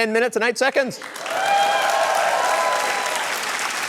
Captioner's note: cheering, applause